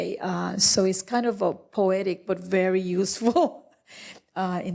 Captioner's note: laughs